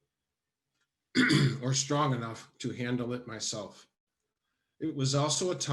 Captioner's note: coughs